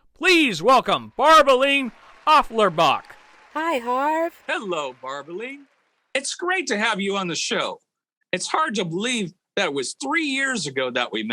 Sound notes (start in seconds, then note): 3.0 audience clapping